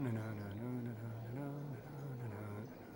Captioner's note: hums